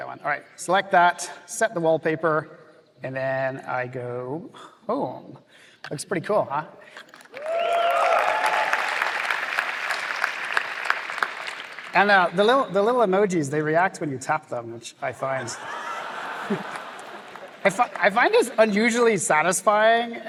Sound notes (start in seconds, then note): 7.0 applause; 15.5 laughter